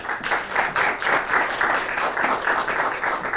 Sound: crowd claps

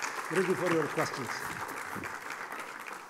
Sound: applause drowns out speaker

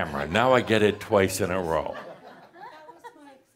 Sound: more chuckles

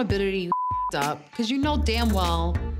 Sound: beep

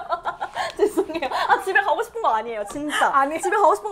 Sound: laughs out loud

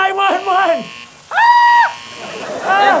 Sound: high-pitched shriek

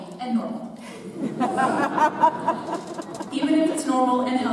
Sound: audience laughs

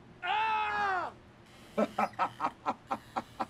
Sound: yelling; laughing

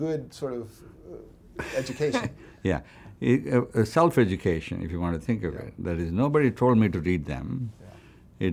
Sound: laughs

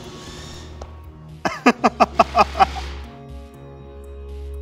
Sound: laughs

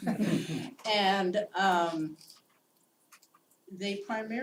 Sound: laugh

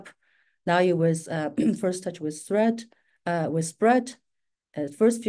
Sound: clears throat

